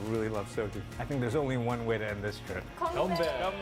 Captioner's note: korean